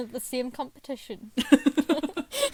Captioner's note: hosts laugh